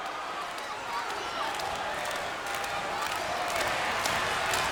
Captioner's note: Giant and crowd clap